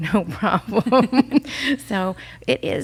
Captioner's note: both laughs